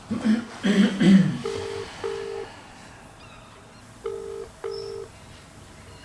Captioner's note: phone ringing